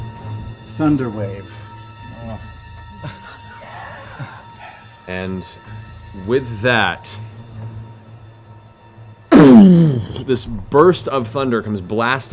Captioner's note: explosion